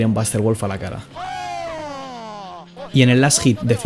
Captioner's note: crazy spanish screams